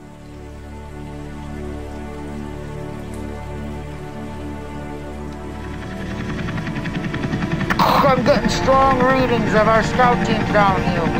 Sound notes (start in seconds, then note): 2.0 soft, relaxing music; 6.0 helicopter whirring